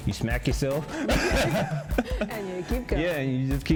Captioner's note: both laugh